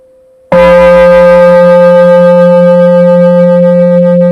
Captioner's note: bell